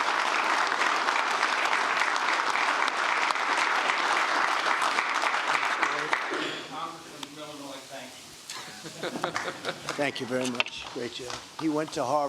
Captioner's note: applause